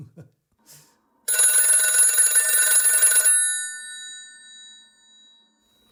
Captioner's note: telephone ringing